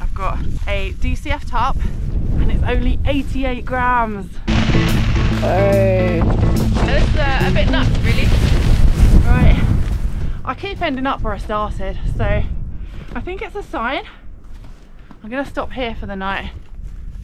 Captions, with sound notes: I've got a DCF tarp and it's only 88 grams! *rain* ohhhh.. *wind* yeh this is a bit nuts really right I keep ending up where I started so I think it's a sign I'm gonna stop here for the night